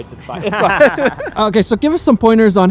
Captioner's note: laughs